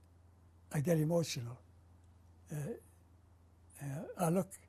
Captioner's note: pauses for 3 seconds